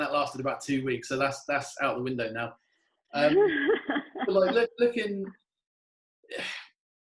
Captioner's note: laughing